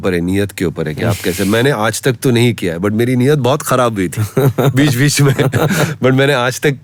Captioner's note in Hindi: हंसी